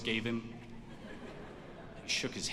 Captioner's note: audience laughs